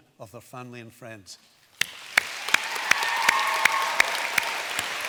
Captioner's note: applause